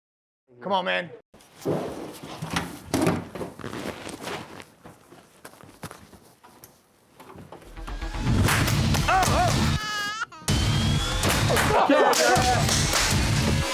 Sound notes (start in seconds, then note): 7.7 intense music; 9.0 baby crying